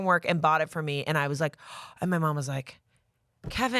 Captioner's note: gasps